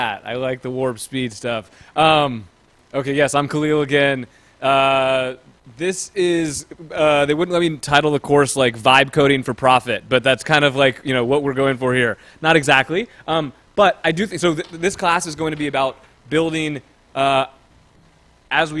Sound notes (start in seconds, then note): none